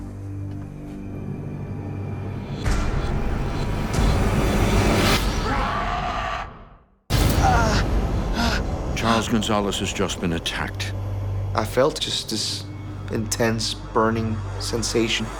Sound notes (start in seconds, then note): 5.3 monster scream; 7.2 groaning